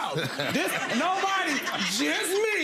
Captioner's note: chuckles